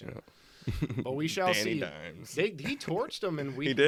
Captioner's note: giggles